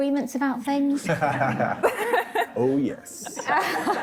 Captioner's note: laughing